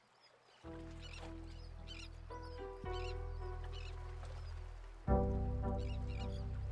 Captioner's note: bird chirping; chill music